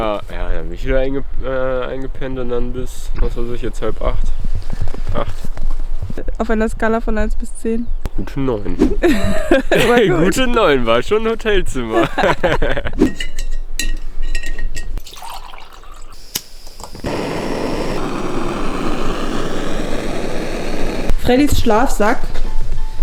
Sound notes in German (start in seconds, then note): 11.9 beide lachen